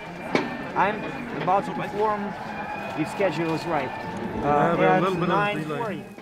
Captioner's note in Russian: разговаривают на английском